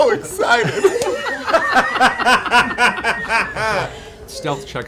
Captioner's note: laughter